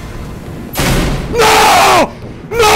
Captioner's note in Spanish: Portazo